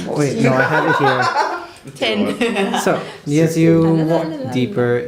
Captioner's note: laughter